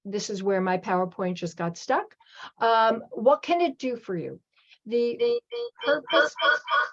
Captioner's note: echo